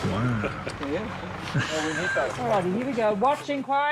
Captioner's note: man chuckling